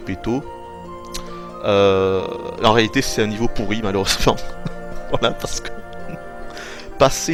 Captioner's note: laughs